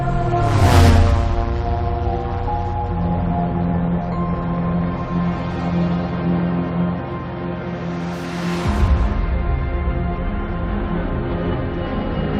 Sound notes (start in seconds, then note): 4.9 airplane buzzing